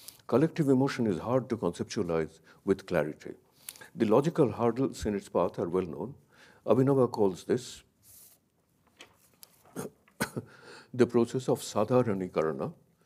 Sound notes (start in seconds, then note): 8.0 paper scratches; 8.8 paper crackling